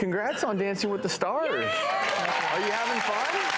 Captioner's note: audience cheers and applauds